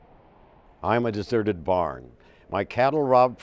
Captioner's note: voiceover